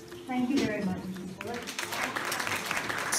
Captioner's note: applause